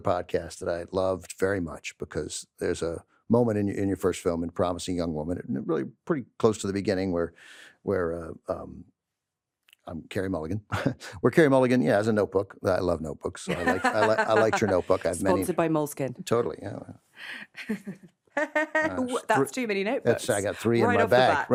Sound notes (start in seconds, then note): 10.6 chuckles; 13.5 laughs; 18.4 laughs